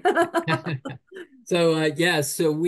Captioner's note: chuckles; laughs